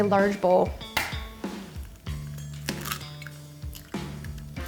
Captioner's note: egg cracking